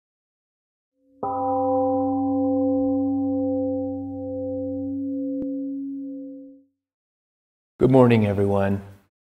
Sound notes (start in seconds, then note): 1.2 temple Gong sounds and slowly fades